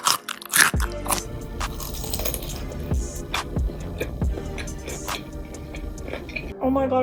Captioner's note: crunchy cucumber noises; fried chicken cronch